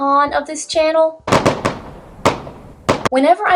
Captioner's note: fireworks